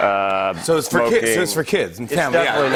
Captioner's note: laughter